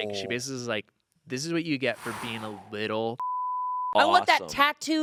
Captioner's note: beep